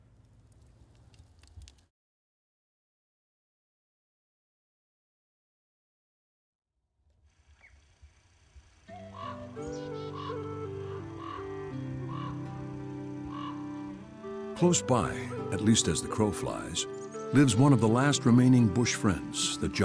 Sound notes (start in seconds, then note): 0.4 fire crackling; 9.0 gentle folksy music